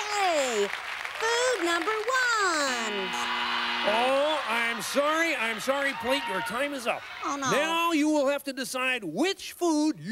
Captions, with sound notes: Food number one. (buzzer) - Oh, I'm sorry, I'm sorry Plate, your time is up. - Oh no. - Now you will have to decide which food